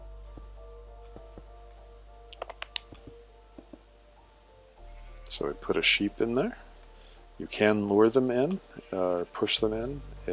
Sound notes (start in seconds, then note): 2.1 series of soft clicks